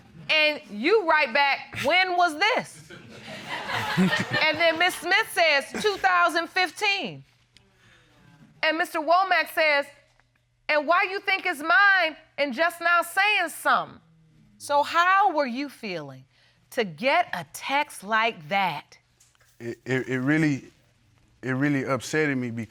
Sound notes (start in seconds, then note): 2.9 audience laughing; 3.6 laughing